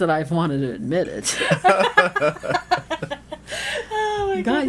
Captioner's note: laughing